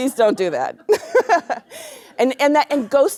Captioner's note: laughter